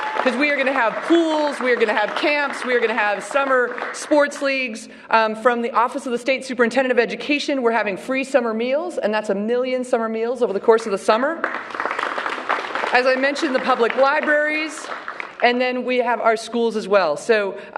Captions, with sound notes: WE ARE GOING TO HAVE CAMPS. WE ARE GOING TO HAVE SUMMER SPORTS LEAGUES. FROM THE OFFICE OF THE STATE SUPERINTENDENT OF EDUCATION, WE'RE HAVING FREE SUMMER MEALS. AND THAT'S 1 MILLION SUMMER MEALS OVER THE COURSE OF THE SUMMER. [APPLAUSE] AS I MENTIONED, THE PUBLIC LIBRARIES. AND THEN WE HAVE OUR SCHOOLS AS WELL.